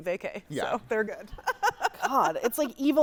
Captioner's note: laughs